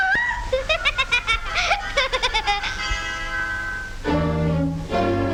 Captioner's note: gnome laughing; stepsister gasping; foreboding music